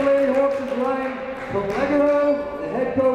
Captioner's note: speaking faintly amidst echo